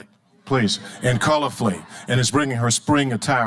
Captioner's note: audience laughing